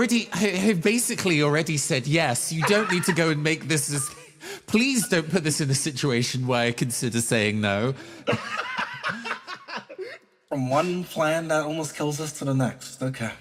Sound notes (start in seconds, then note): 8.2 laugh